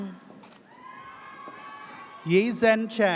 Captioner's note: audience cheers